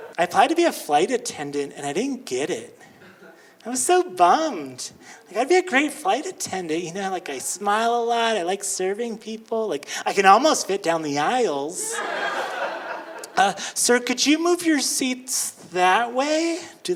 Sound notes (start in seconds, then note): 11.8 audience laughing